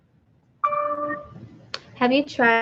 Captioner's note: computer dings